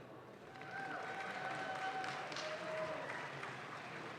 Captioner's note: audience claps